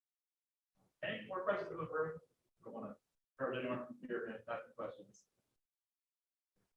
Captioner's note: faintly speaking